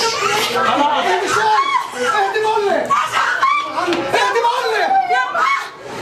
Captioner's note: medics yelling